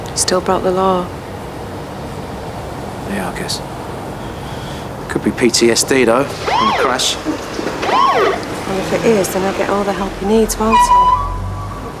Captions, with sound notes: He still broke the law. Yeah, I guess. It could be PTSD, though. From the crash. (SIREN BLARES) Well, if it is then he'll get all the help he needs, won't he?